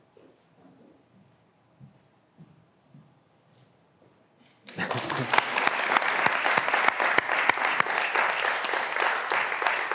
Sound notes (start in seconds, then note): 4.6 graduands applauding